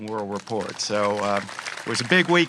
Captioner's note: applause